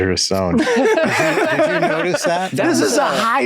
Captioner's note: all laughing